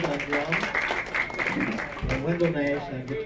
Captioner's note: audience clapping